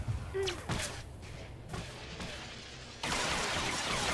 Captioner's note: gun firing